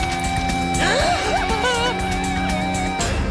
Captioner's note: gasp